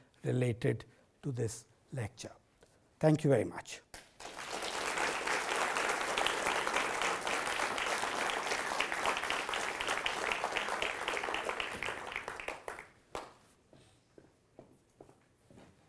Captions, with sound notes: related to this lecture. Thank you very much. [audience applause]